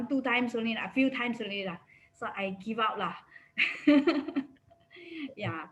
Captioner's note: laughs